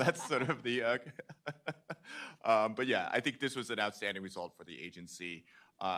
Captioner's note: chuckling